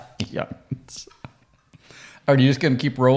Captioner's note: laughs